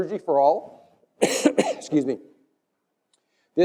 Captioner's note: cough